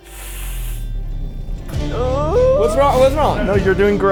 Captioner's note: crew laughing; dramatic music; squeals